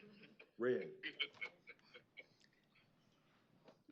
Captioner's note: laughter